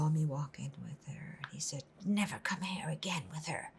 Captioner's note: whispering